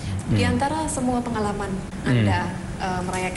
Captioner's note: non-english speech